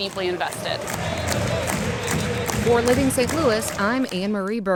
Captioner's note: audience cheering